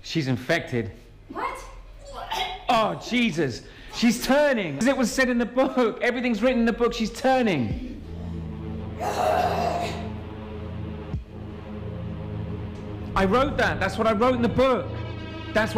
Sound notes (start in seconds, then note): 8.5 Jill growls; 8.5 dark electronic music